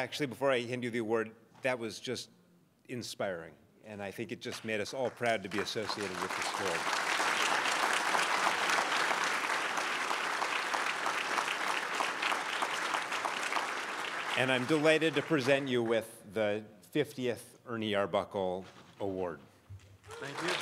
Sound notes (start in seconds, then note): 6.9 crowd applauds